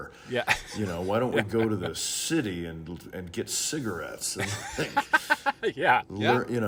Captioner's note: laughing